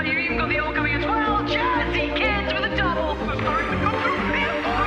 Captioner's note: cheering